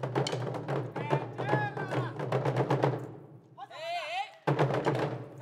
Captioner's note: shouting in language other than English; drums beating